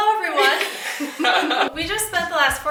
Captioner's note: laughs